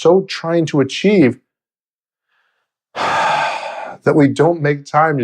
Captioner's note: exhales